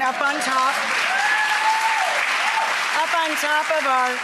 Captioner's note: crowd cheers